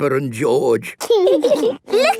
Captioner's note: laughing